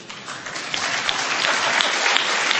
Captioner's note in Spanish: Aplauso